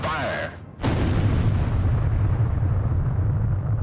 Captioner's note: explosion